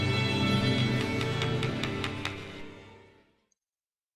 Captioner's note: tapping